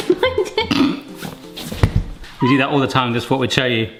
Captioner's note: both laughing